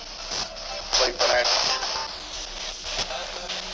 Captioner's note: spirit box voice